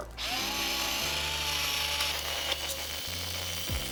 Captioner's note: shaker whirring